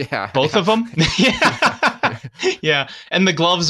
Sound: laughs

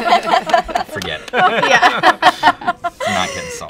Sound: laughter

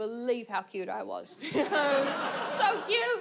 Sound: audience laughs

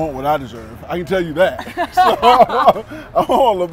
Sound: laughs

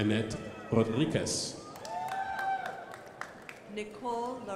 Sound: crowd applauding

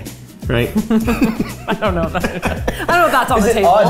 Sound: both laughing

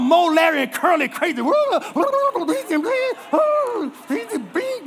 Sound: imitates the Three Stooges

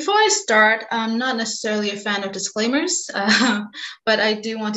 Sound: chuckles

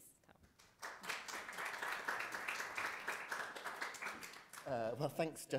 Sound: audience applauds

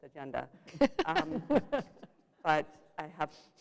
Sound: laughter

